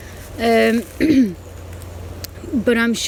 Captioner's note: coughs